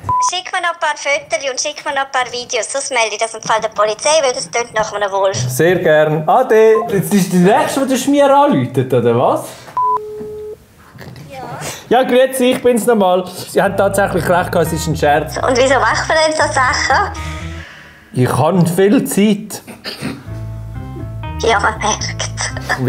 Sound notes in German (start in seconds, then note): 9.8 Telefon klingelt